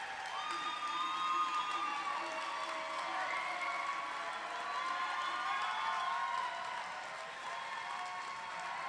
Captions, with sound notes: . LADIES AND GENTLEMEN, YOUR ROWAN UNIVERSITY SCHOOL OF EARTH AND ENVIRONMENT 2019 GRADUATES. [CHEERS AND APPLAUSE]